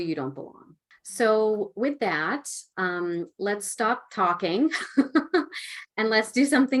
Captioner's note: laughing